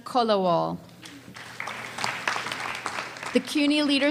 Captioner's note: audience applause